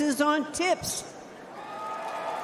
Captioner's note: applause